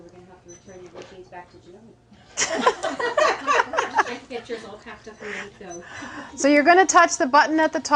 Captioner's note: laughing